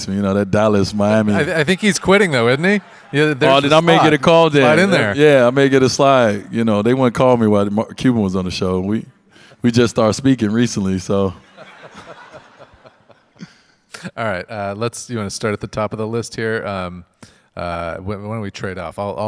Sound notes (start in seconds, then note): 11.4 audience laugh